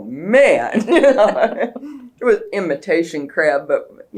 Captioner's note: laughter